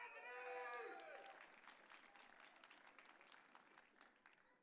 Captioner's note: audience cheering